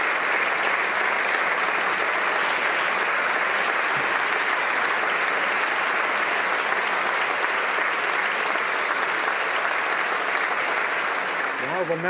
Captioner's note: applause